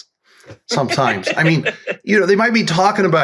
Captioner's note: laughs